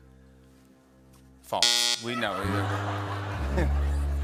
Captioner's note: buzzer